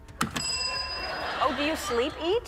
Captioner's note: crowd members laughing